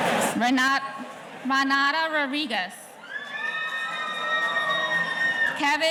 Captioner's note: audience cheering